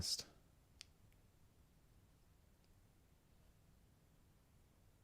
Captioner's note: silence